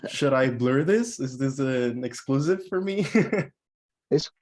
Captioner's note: laughs; laughs